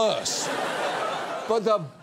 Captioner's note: audience laughing